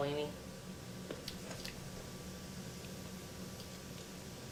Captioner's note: smacking lips